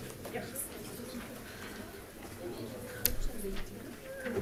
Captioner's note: crowd chatting